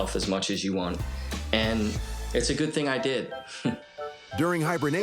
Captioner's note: chuckles